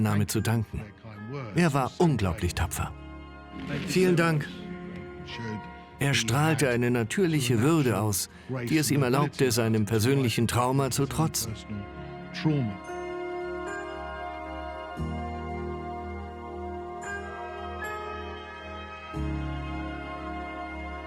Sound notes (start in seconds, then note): 5.4 voiceover; 12.3 solemn music